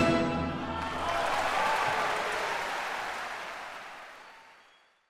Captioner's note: applause